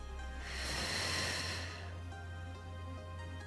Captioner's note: exhales